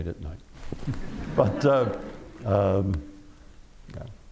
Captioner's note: laughter